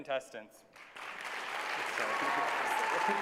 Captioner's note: applause